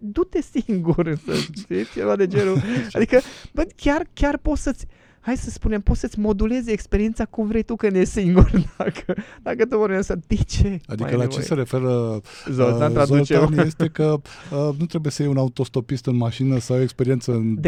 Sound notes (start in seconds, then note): 2.4 snoring; 8.4 laughter